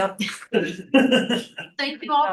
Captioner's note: laughing